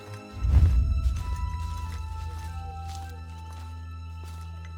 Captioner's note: somber music; leaves crunching